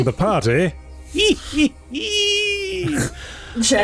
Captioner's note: laughs like a goblin